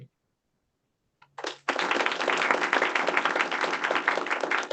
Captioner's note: applause